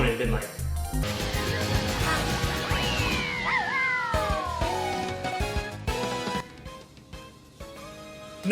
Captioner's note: Mario Kart noises